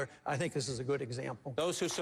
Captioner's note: applause